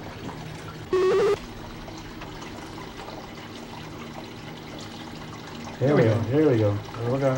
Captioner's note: beeping/buzzing